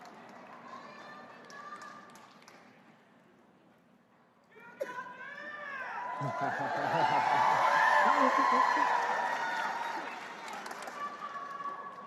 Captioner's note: crowd cheering